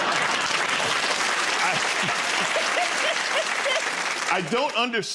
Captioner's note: laughter; applause